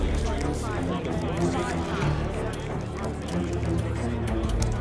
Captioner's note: overlapping chatter